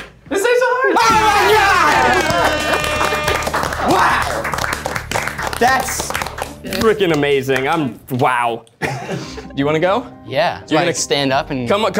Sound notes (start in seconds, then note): 1.2 audience applauds; 2.0 trumpet blares